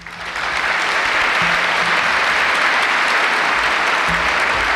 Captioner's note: applause